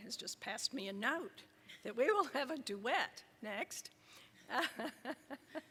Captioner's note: laughs